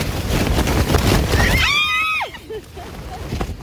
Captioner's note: wind blowing; screaming